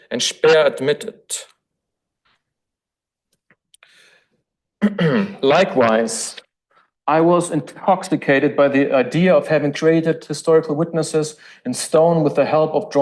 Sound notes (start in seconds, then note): 4.8 throat clears